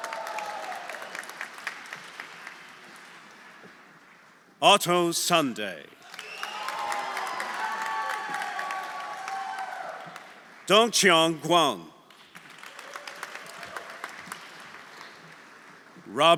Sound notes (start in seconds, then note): 0.0 audience cheering; 0.0 audience applauding; 6.0 audience applauding; 6.0 audience cheering; 12.0 audience applauding; 12.7 audience cheering